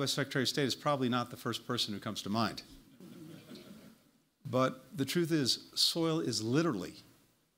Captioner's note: laughter